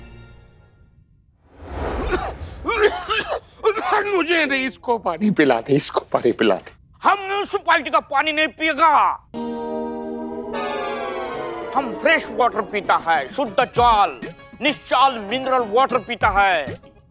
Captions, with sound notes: [coughs] Give him water, not me. I won't drink water from the municipality. I drink pure and fresh water. I drink clean mineral water.